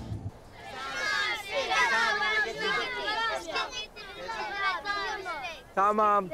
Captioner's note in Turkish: Çocuklar konuşuyor